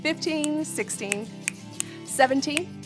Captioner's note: snapping